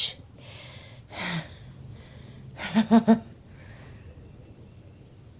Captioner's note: Caroline laughing